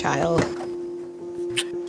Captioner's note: smooch